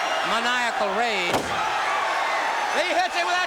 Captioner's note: crowd cheering